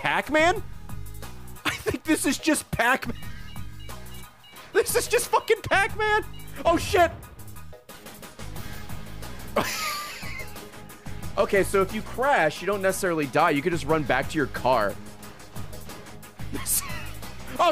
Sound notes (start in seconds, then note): 4.1 laughs; 16.5 laughs